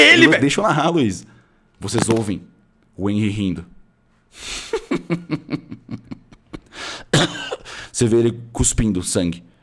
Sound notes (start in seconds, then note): 4.4 laughs; 6.4 coughs